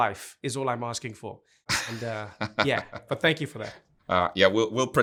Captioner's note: laughs